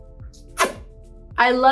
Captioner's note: lips smacking